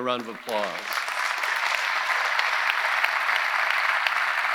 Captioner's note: audience applauding